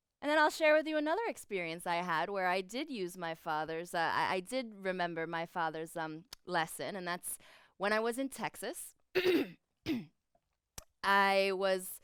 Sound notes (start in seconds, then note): 9.1 clears throat